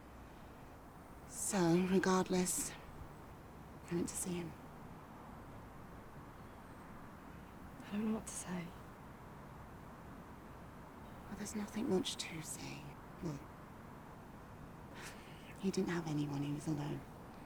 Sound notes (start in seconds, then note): none